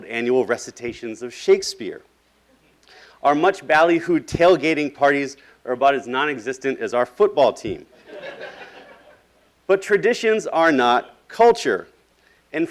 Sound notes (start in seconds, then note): 8.0 laughing